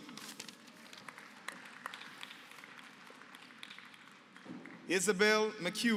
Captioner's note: applause